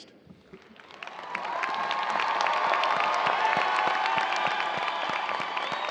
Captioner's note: cheers and applause